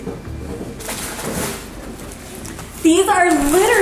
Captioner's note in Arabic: تجعد البلاستيك